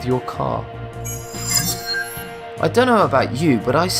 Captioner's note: sharp chiming